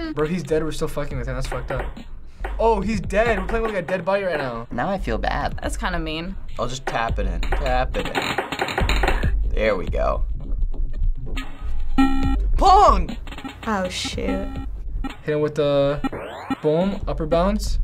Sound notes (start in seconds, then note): 8.3 button rattles; 11.9 game blips